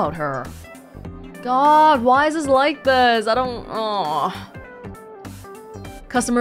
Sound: groans

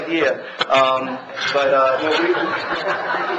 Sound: laughs

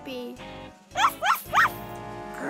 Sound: barking; growling

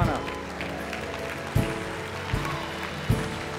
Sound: applause

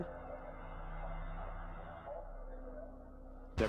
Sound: car engine revving

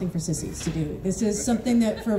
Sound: scattered chuckles

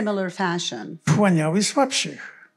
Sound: foreign language

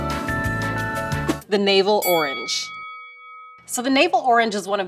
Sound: bell dings

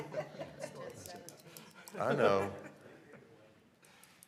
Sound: laughter

